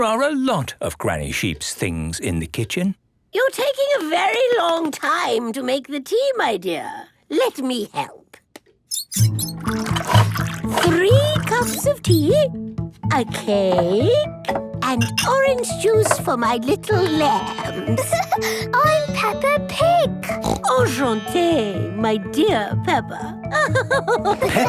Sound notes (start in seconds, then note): 17.8 giggling; 20.2 snorting; 23.5 laughing